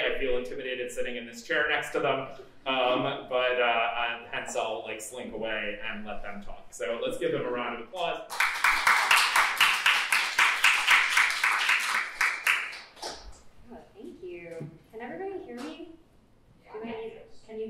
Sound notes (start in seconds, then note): 8.2 applause